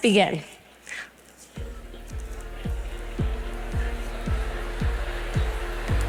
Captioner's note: chatter